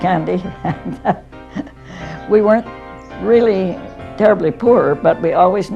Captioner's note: laughs